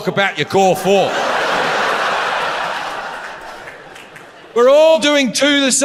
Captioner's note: audience laughs